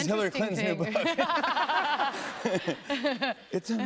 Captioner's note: laughter